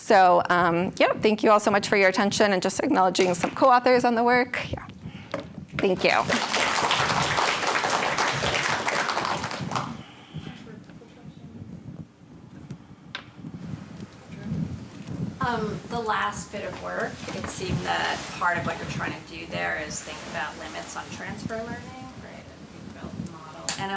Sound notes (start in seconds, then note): 10.8 applause